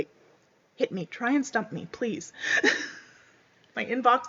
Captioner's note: laughs